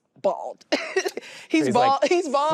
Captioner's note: laughs